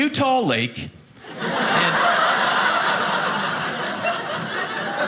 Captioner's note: audience laughing